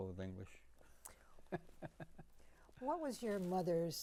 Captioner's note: laughing